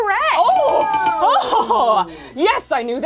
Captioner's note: buzzer rings; laughs